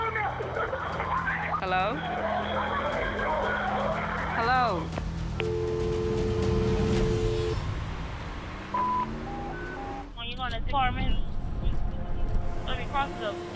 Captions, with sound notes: Hello? [screaming] Hello? [dial tone] [radio beeps]